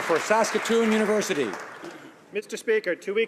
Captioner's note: some Applause